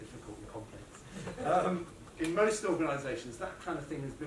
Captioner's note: laughter